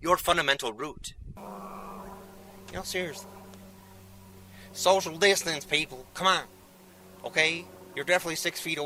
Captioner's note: airplane noise